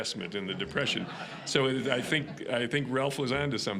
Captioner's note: audience laughing